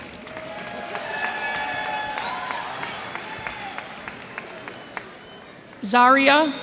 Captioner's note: cheers and applause